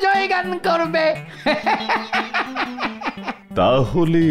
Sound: laughs

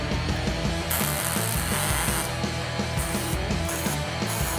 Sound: machine hissing

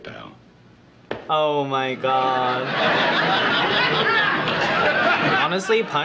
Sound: canned laughter

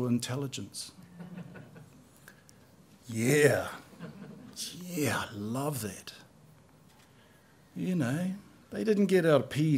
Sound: laughter

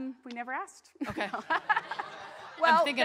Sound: audience laughs

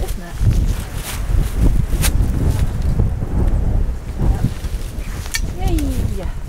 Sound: wind

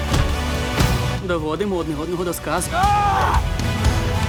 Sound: Diego screams

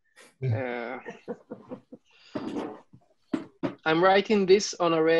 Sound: laughing

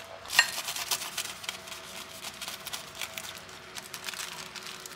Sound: pit a pat

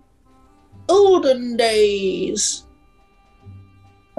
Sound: old crone voice

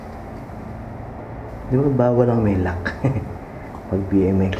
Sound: chuckles

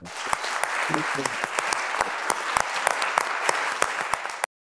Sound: audience clapping

